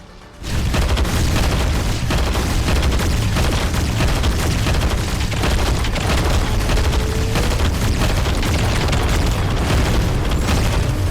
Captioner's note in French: bruits de combat répétitifs